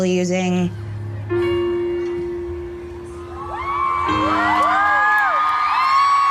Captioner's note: crowd cheering